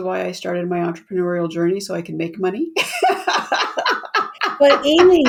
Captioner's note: laughs